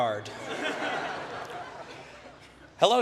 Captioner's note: laughter